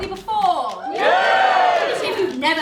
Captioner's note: audience cheers